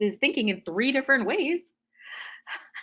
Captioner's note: laughing